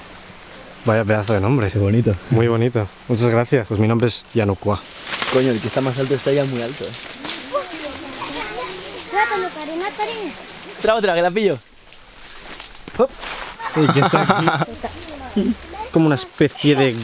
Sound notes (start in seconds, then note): 5.3 kids playing